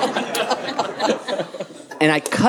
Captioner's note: audience laughing